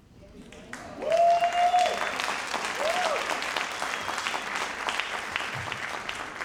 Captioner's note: audience applauding